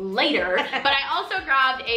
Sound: laughs

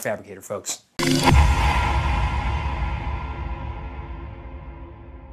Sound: ominous echoing thud

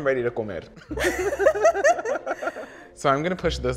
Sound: laughing together

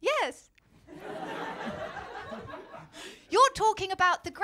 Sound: laughter

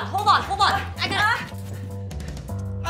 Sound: stressed groaning

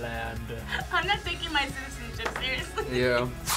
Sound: laughs

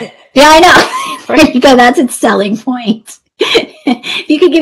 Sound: laughs

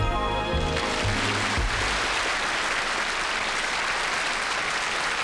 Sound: audience applauding

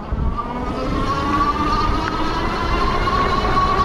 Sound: squeaks

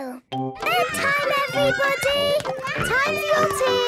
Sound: children playing

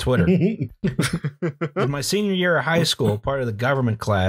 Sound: laughter

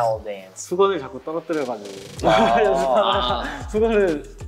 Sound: speaking Korean

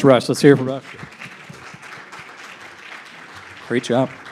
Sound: audience applauding

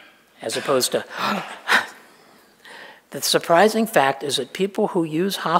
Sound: gasp

